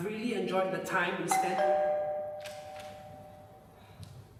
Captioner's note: doorbell rings